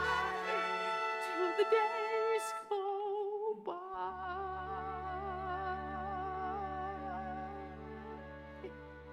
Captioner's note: voice breaking